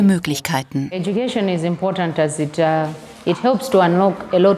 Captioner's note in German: Sie spricht auf Englisch fertig